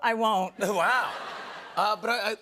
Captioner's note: laughter